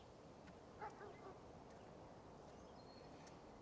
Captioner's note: dog barks in distance